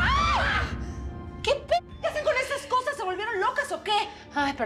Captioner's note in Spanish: gritos